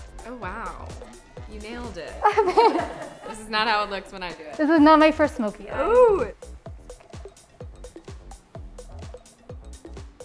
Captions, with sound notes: - Oh wow. You nailed it. (laughing) This is not how it looks when I do it. - This is not my first smoky eye. - Ooh. (upbeat music)